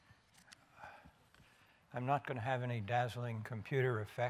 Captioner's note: silence